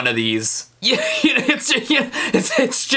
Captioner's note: stutters